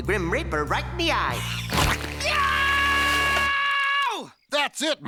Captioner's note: chomp